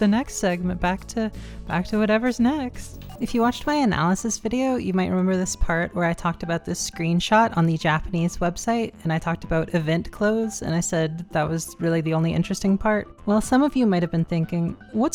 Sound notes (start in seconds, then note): 2.9 remote click